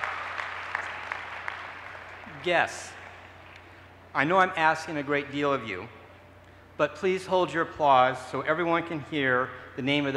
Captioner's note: cheers and applause